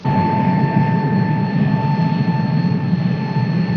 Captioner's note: vehicle whirring